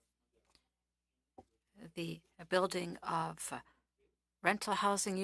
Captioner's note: speaking French